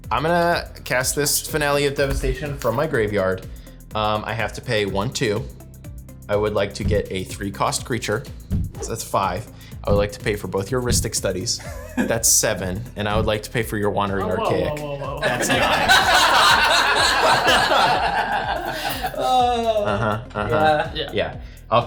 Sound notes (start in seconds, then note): 16.3 all laughing